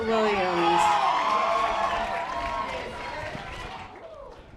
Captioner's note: audience applause